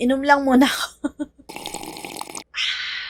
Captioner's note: slurping intensifies